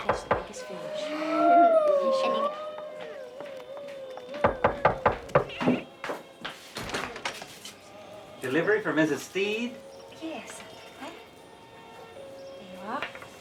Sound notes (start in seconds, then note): 0.0 family chattering; 0.3 mailman knocking; 7.7 door clicking